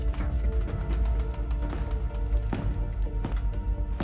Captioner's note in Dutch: voetstappen tikken